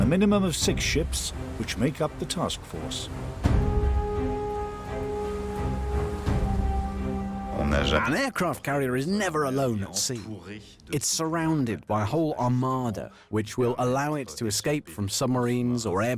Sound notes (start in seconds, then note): 7.9 voiceover